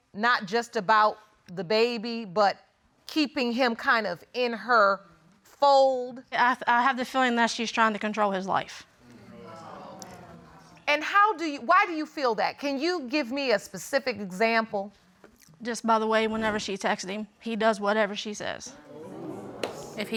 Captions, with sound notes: not just about the baby, but keeping him kind of in her fold? I have the feeling that she's trying to control his life. [audience murmuring] And why do you feel that? Can you give me a specific example? Just by the way whenever she texted him, he does whatever she says.